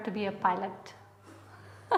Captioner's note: laughter